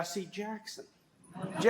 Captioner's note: laughter